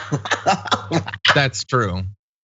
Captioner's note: laugh